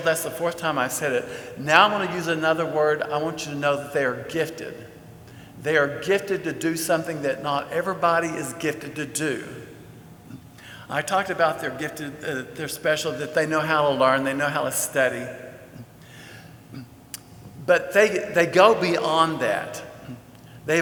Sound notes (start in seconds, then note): none